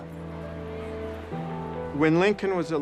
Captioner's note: people chattering